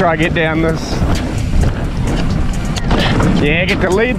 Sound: bike clatters

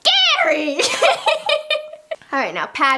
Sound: laughter

